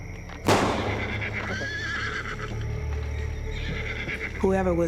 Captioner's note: gunshots; neighing